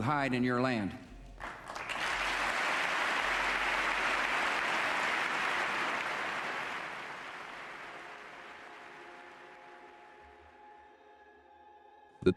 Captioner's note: round of Applause